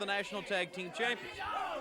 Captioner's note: crowd cheering